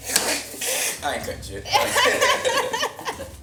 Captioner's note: laughs